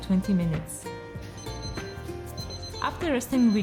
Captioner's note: alarm beeping